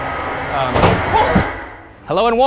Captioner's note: something thudding